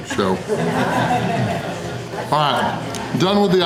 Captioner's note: crowd laughter